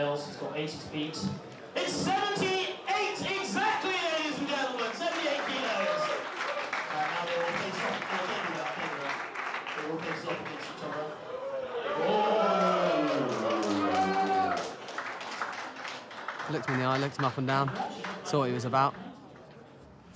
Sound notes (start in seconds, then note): 6.6 crowd cheers; 11.2 crowd ooh's and ah's; 14.8 crowd cheers